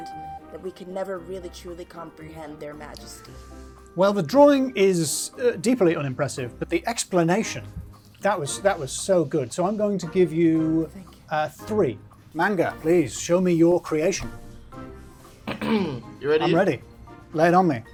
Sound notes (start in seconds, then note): 15.4 coughs; 17.7 bouncy upbeat music